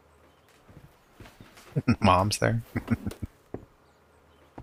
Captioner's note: chuckling